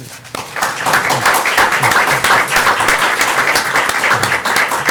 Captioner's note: applause